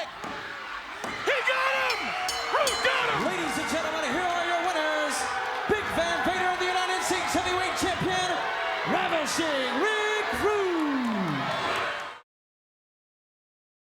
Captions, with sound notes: He got him! (bell dings) Rude got him! Ladies and gentlemen, here are your winners. Big Van Vader and the United States heavyweight champion... Ravishing Rick Rude! (crowd cheers)